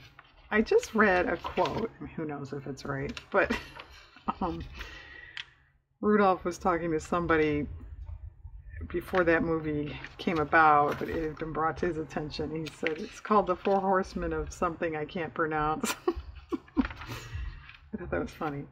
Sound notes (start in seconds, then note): 15.8 laughs